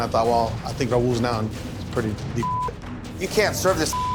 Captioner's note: beeping